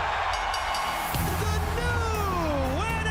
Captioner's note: bell rings